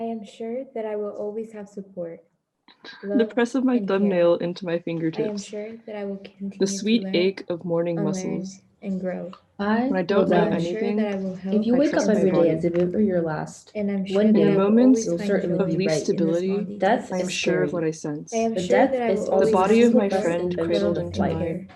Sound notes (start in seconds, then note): 3.2 growing cacophony of overlapping voices